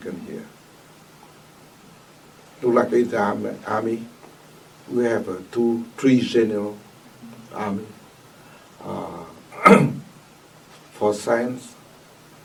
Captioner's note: coughs